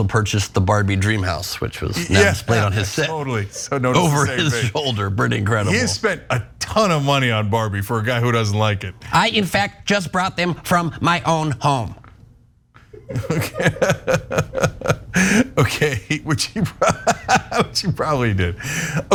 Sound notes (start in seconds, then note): 3.0 laugh; 12.9 laugh